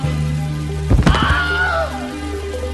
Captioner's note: Wilhelm scream